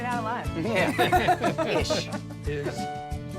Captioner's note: laughter